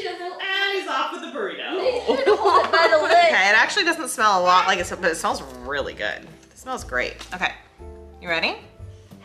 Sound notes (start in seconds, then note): 1.7 everyone laughing